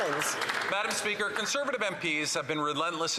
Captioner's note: some Applause